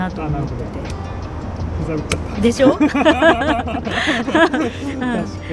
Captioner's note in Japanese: 笑い